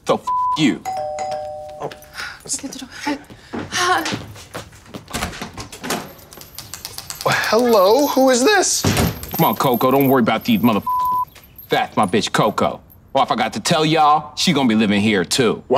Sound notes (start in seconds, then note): 0.2 beep; 0.8 door bell ringing; 10.8 beep